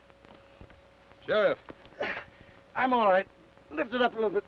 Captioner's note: grunts